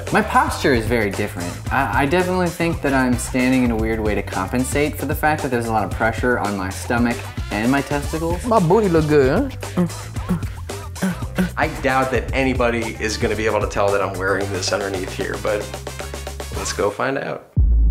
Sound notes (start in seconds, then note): 11.0 grunting